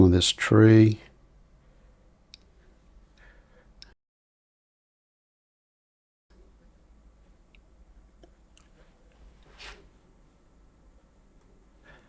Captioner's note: silence